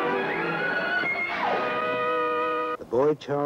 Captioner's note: girI screaming